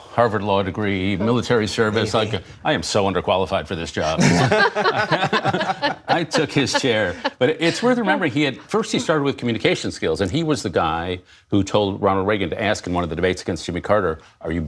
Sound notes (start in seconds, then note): 4.0 laughter